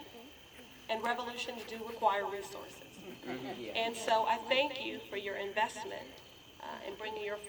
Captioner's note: laughter